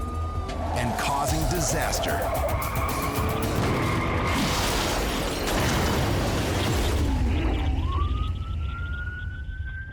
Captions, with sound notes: and causing disaster. -[tires screeching] -[thudding] -[glass shattering] -[thudding] [siren wailing]